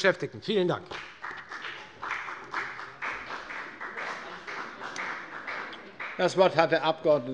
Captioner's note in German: Beifall bei der FDP